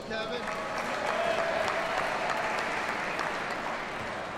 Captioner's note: audience applauds